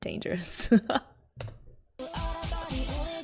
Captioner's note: laughs